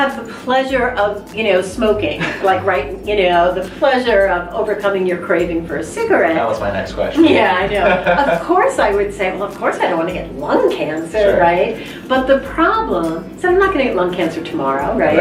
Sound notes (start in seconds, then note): 7.2 laughter